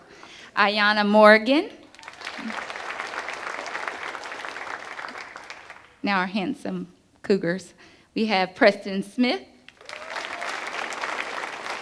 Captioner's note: applause